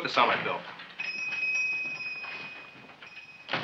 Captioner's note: shop bell dings